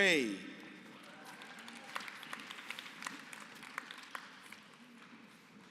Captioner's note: applause